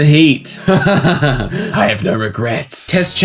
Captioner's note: evil laughter